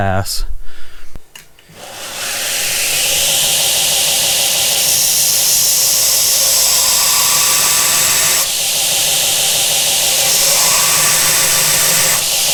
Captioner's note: grinding